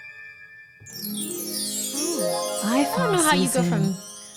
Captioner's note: chiming